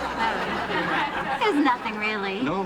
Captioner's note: laughter